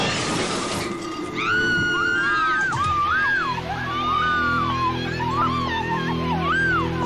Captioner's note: crashing; screaming